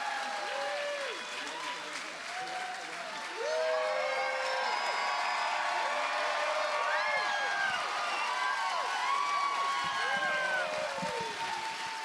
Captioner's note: cheers and applause